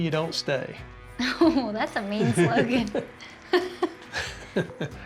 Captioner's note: laughs